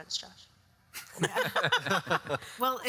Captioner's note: all laugh